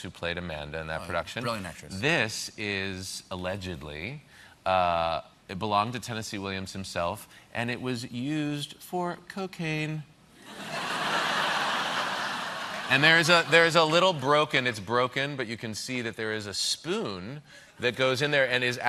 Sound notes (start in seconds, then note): 14.5 laughter